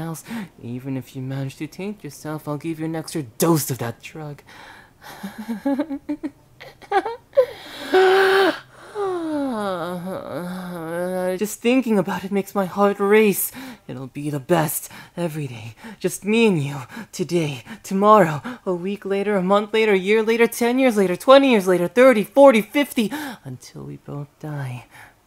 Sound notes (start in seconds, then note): 5.1 laughter; 7.4 sigh